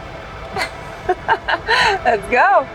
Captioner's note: laughs